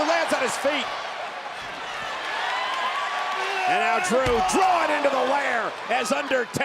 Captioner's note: applause